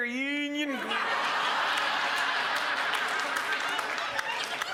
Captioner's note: crowd laughs